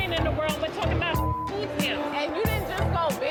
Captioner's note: beep